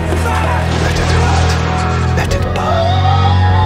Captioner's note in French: Dexter hurle